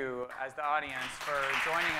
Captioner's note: audience clapping